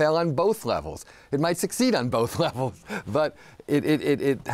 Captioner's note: laughs